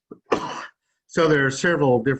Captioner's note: coughs